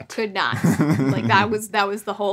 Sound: laughs

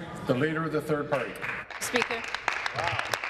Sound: applause

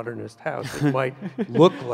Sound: chuckles

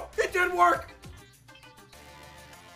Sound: none

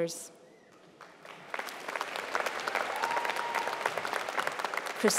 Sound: applause

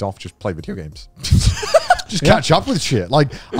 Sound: laughs

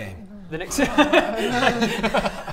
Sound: laughs

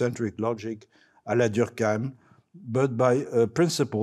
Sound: speaking French

